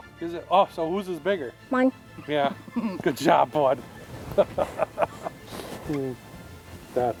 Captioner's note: laughs